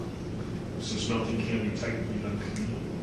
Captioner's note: speaks faintly